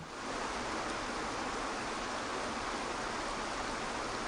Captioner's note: waterfall roaring